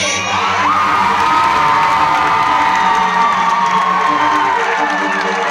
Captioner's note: crowd roars and claps loudly